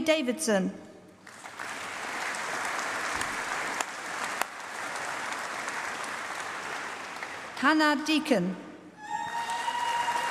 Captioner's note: applause; applause